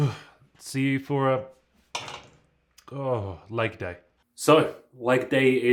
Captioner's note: shudders